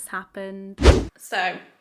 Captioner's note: video swooshes